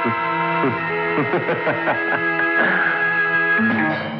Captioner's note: Laughing